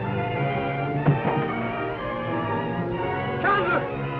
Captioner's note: body thumps